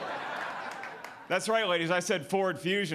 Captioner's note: audience laughing